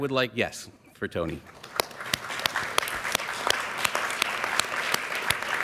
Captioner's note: applause